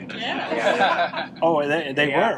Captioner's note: group laughing